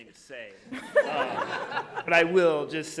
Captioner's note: audience laughing